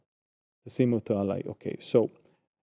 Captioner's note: speaking in Hebrew